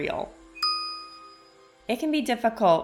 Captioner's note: pause